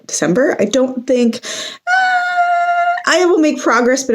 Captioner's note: higher pitched